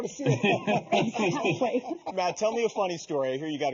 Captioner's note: laughing together